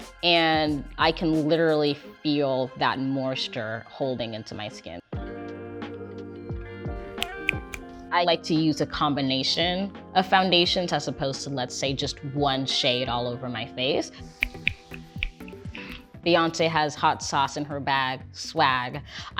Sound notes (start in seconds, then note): 5.1 light music; 7.1 fingers snap; 14.3 fingers snap